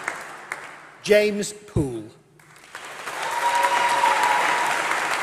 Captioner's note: applause